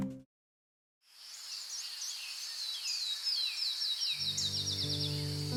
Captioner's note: birds tweeting